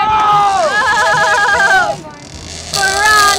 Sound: yelling

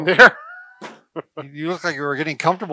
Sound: chuckles

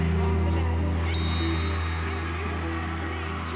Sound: whistle blows

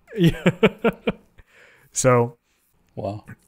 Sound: laughing

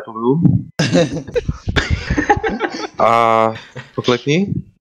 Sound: laughter

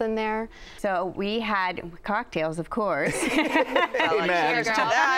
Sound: laughter

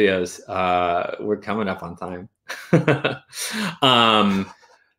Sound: laughs

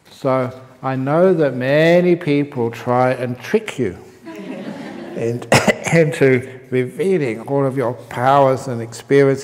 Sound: laughter

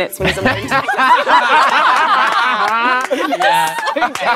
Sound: group laughs

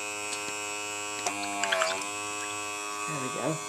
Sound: mixture bubbling

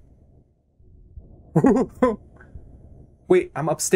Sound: uncomfortable Laughter

